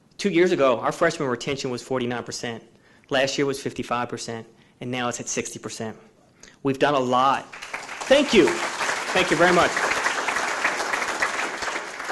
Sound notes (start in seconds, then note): 7.4 audience applauding